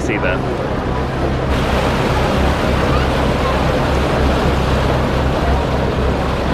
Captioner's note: water rushes